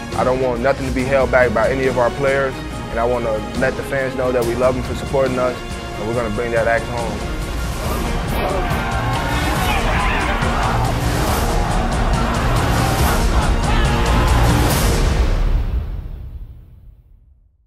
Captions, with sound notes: I don't want nothing to be held back by any of our players, and I want to let the fans know that we love them for supporting us and we're going to bring that axe home. [Football team cheering] Chop! Chop! Chop!